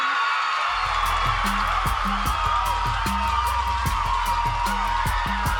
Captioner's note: cheering, applause